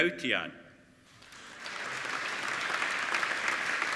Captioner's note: applauding